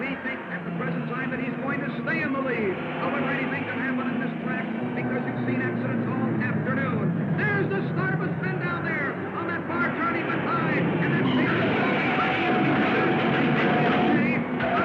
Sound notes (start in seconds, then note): 10.8 cars revving; 11.8 tires squealing